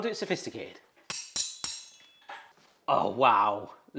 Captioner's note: utensils clang